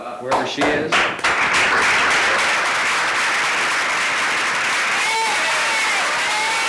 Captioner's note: audience and actors applauding